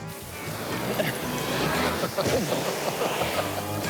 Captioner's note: laughs